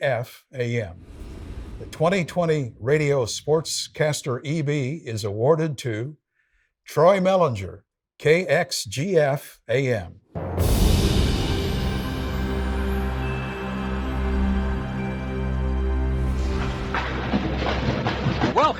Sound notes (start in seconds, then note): 10.4 soft music; 10.7 wind whooshing; 17.1 upbeat music